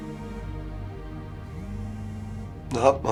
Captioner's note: phone keeps vibrating